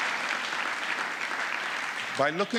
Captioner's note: applause